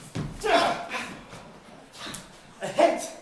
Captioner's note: gasps of horror as they duel